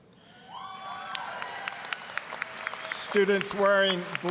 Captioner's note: applause, cheering